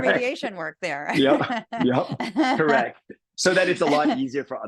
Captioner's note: laugh